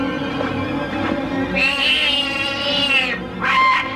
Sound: kid screams; bird squawking

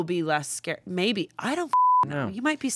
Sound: beep

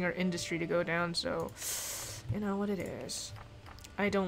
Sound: sucks breath

